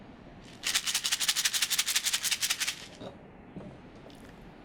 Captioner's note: shaking rainstick